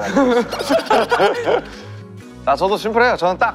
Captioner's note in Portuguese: Hahaha